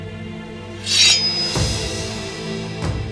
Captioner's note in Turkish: Kılıç çekme sesi